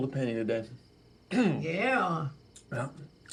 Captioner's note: clears throat